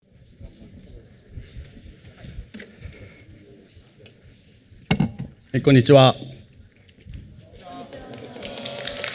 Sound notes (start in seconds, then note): 0.2 silence